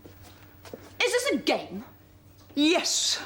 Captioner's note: SOREL, with feeling